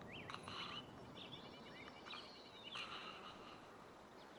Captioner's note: Rebecca breathing slowly